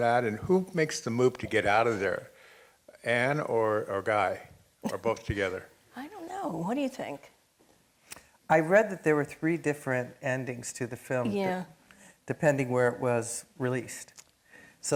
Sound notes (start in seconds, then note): 4.8 laughing